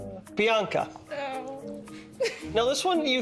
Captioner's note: groaning